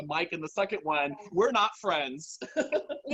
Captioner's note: laughs